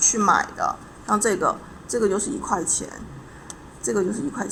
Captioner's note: explaining in Chinese